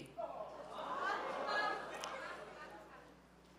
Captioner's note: laughing